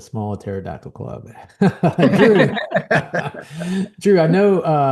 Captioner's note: laughing